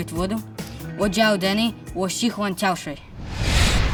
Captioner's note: speaks in Russian; speaks in Chinese